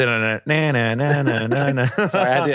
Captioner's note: vocalizes